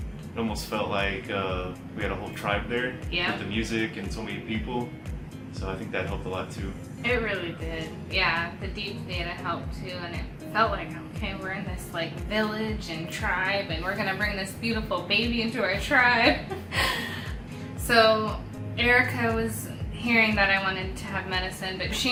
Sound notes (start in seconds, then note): 16.2 laughs